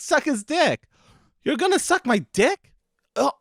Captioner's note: gasps